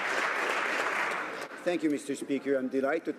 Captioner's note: some Applause